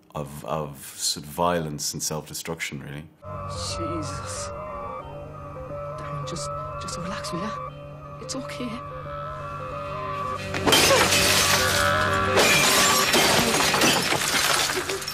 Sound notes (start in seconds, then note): 10.5 glass shattering